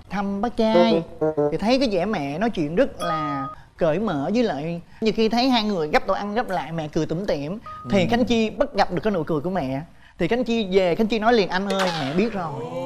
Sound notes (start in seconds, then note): none